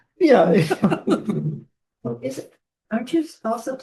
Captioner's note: laughter